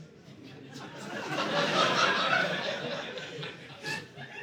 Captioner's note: audience laughing